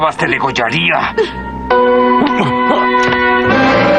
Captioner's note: grunts